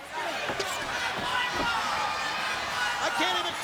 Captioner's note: crowd shouting